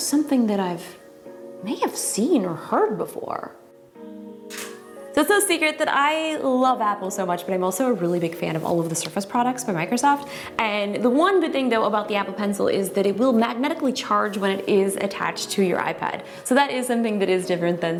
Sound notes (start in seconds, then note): 3.6 snap